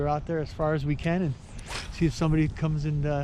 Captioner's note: rod whipping; reel spinning